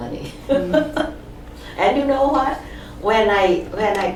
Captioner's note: laughs